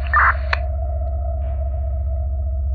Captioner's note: police radio clicks